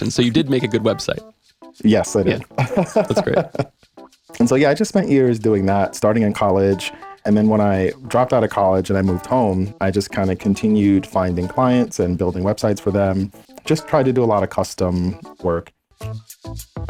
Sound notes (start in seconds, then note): 2.4 laughing